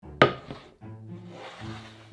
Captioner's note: board sliding; quirky music playing in background throughout video